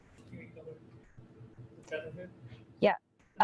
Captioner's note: speaks from a distance